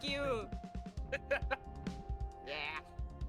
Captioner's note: laughs